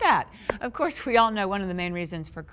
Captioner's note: clap